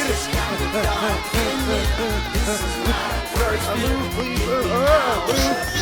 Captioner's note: panting, mumbling